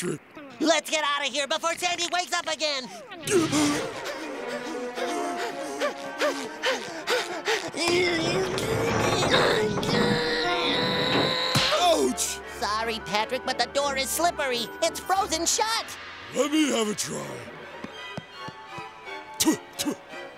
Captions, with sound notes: Let's get out of here before Sandy wakes up again. [panting] [grunting] Ouch. Sorry, Patrick, but the door is slippery. It's frozen shut. Let me have a try. [spitting]